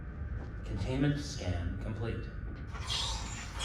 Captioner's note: computer voice